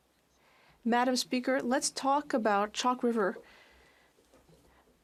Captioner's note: speaking French